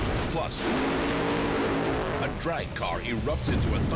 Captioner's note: engines roaring